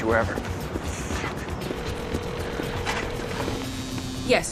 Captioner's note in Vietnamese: tiếng rung; tiếng đường dây